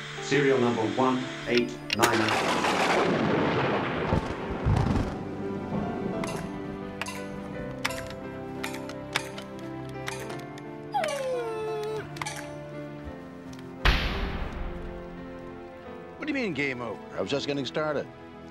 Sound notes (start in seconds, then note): 10.8 dog whining; 13.9 banging